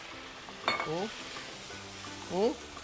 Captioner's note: sizzles